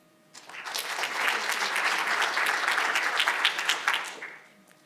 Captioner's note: audience applauding